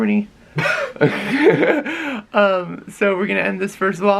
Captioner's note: lols